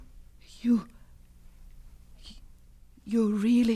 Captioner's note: scraping